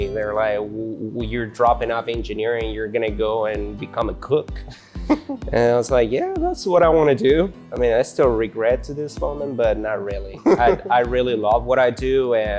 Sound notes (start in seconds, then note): 10.3 laughs